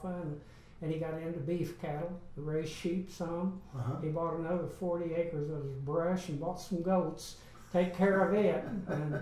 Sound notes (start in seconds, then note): 7.7 laughs